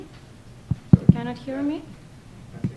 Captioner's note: tap, tap, tap